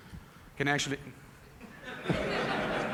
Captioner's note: laughter